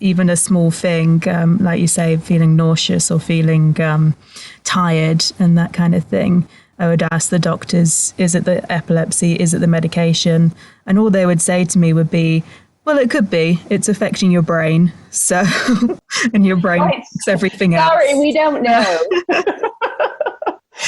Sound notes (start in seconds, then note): 16.6 laughs